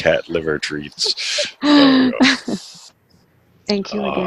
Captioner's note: laughs